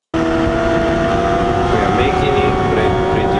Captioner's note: tires screeching